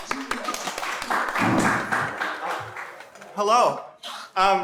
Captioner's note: audience applauding and cheering